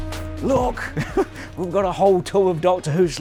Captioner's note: laughs